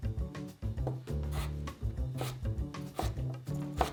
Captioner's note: knife chopping